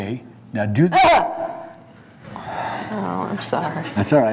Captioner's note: barks